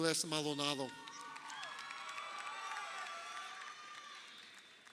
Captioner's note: crowd cheering